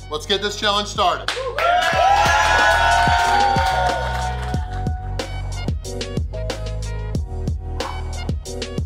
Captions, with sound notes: Let's get this challenge started. (audience cheering) (upbeat music)